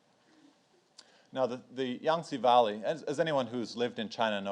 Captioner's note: speaks in foreign language